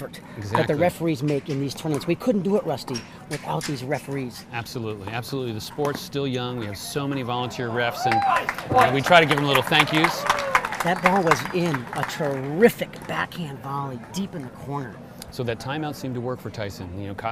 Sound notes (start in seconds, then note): 7.8 audience clapping